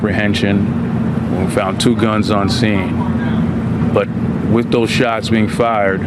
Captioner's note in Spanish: hablan n en inglés